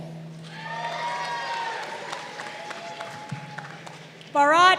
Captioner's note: crowd cheering